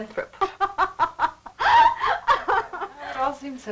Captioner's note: laughing